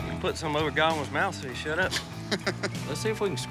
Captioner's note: laughs